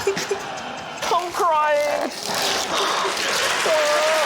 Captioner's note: whimpers; cheering, applause, laughter